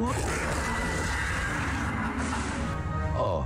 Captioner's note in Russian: ахает; скрежет